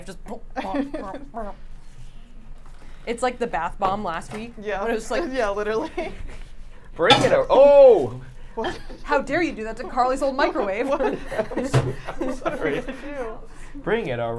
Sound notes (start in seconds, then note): 0.5 laughs; 0.6 humming; 7.0 microwave clanks; 9.9 laughs